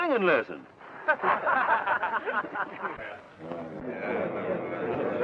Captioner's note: men laughing